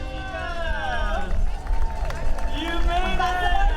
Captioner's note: crowd chattering